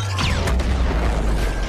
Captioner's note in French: boum